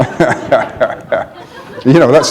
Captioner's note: laughter